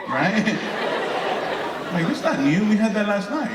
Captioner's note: audience laughing